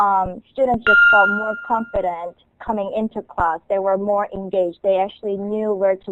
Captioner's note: timer